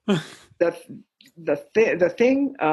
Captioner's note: chuckle